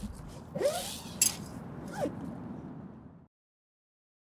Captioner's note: zipper